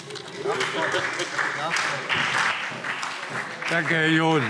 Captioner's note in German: Beifall SPD